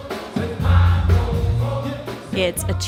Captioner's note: crowd